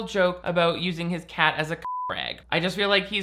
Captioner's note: beep